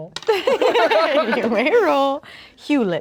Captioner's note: everyone laughs